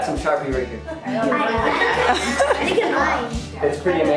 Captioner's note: classroom chatting